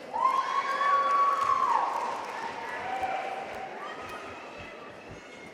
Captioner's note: audience cheering and applauding